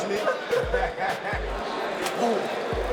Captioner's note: inmates laughing